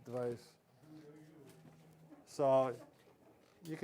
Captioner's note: indistinct background chatter